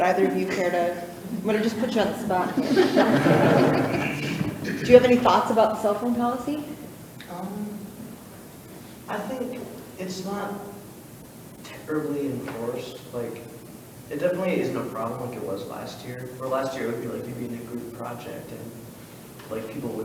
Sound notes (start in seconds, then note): 2.9 all laughing